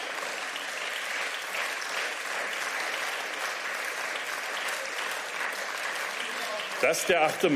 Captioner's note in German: Beifall